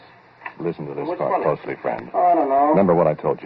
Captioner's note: narrates, over the voices